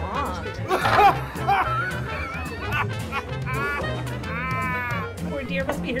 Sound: drunk laughter

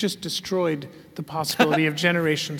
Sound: laugh

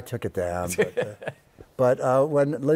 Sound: laughs

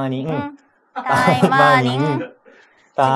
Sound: laughs

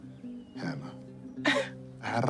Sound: scoffs; rolls tongue

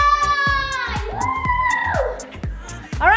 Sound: cheering

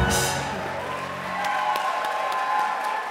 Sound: audience Cheers

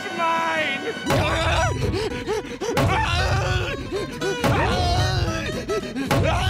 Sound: shrieking; panting, groaning

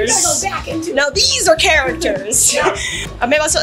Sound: both giggling

